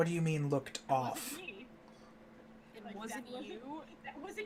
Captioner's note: incredulous